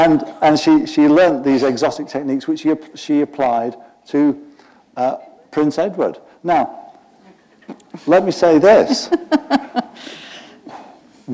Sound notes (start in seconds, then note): 9.0 chuckle